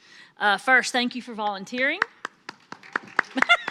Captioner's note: laughs